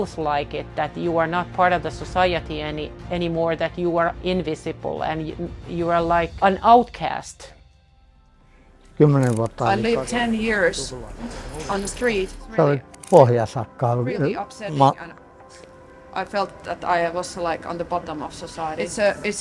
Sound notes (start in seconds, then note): 9.1 speaking in a foreign language; 12.7 speaking in a foreign language